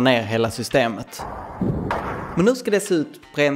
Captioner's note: gunfire in the distance